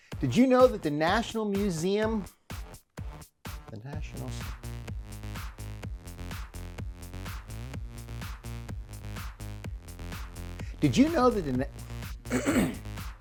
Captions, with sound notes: Did you know that the National Museum. The Nationals . . . Did you know that the (clears throat).